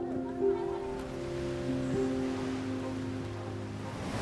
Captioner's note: waves crash